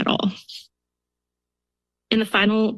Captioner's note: pause